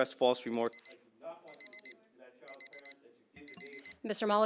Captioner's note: alarm beeping